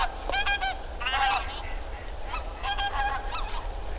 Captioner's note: tundra goose/Greylag goose call